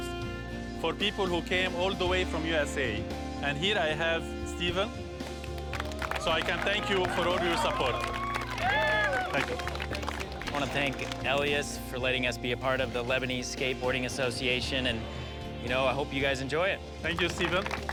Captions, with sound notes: [cheers and applause] Thank you. - I want to thank Elias for letting us be a part of the Lebanese Skateboarding Association, and, you know, I hope you guys enjoy it.